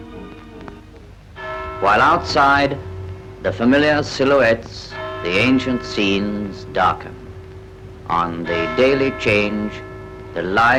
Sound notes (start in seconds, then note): 1.2 clock strikes